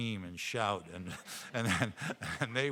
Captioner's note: all laughing